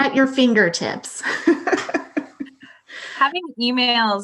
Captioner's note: laughing